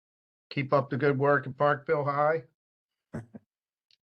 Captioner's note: chuckles